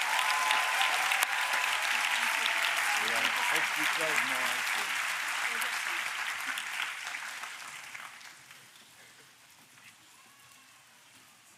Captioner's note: applause